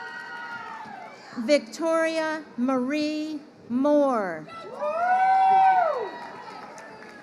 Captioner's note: crowd cheering